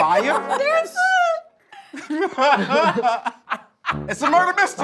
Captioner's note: judges laughing